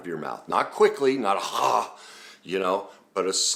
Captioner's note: exhales